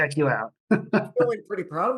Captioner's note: chuckles